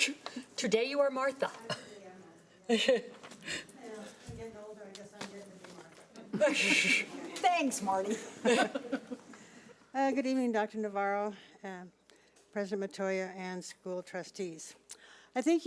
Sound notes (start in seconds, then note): 8.0 audience laughing